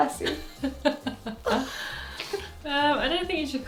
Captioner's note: laughs